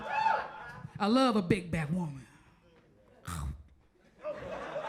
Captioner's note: munches